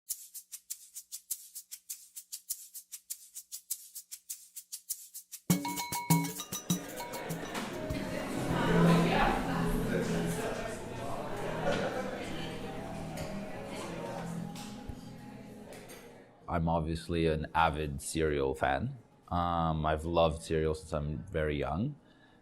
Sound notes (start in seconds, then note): 0.1 ambient music; 6.3 incoherent chatting